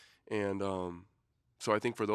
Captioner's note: none